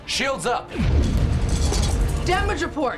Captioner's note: explosion